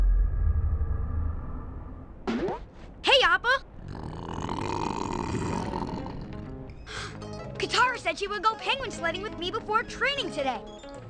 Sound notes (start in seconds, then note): 3.7 Appa growls; 6.4 Aang gasps